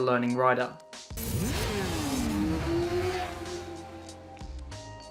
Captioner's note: bike engine roars